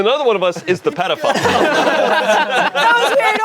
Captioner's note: everyone laughing